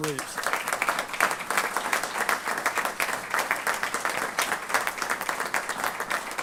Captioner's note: applause